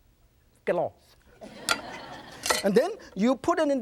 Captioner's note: audience laughs